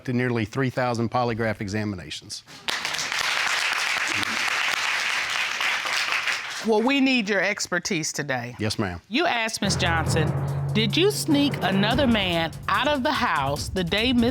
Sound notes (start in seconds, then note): 2.5 audience applauding